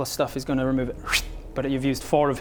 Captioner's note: whsht!